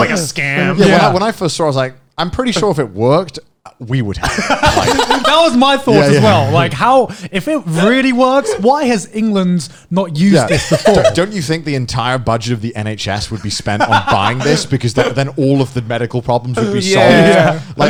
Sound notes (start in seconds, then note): 4.2 laughing